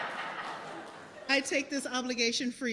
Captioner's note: laughter